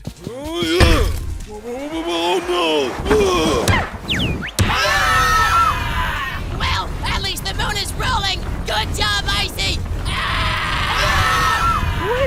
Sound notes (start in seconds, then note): 3.0 snowball screams; 4.6 everyone screams